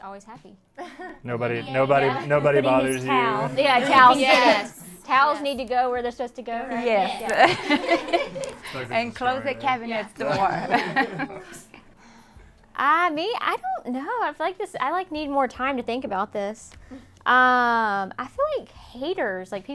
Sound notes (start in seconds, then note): 2.0 all muttering; 6.7 laughs